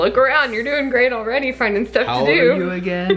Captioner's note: laughs